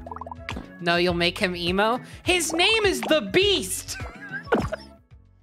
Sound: laughing

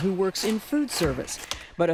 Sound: chopping veggies

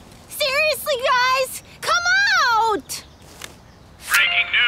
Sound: phone beeping

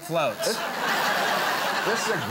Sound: audience laughs

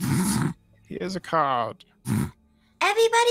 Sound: laughs; laughs

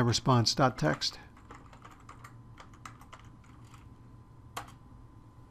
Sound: typing; typing

